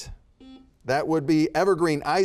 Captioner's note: buzzer beeping